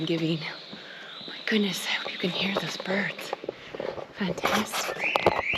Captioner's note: birds singing